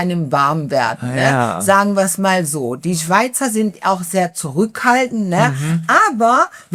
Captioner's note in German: räuspern